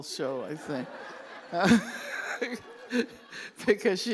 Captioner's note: laughter